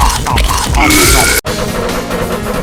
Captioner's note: vomits